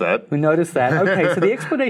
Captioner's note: laughing